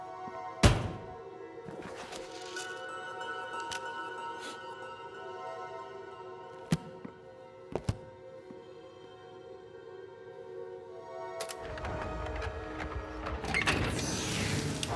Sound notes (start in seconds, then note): 2.3 eerie music continues; 3.1 Chef sniffs; 11.4 eerie music continues